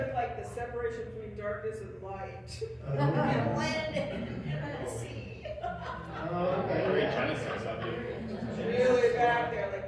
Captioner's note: laughter